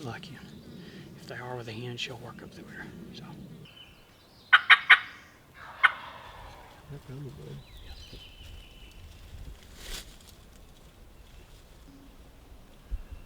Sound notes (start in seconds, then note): 4.5 turkey gobbles; 4.9 turkey calls